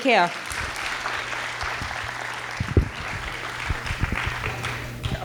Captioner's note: audience claps